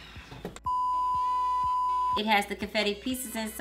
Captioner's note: beeping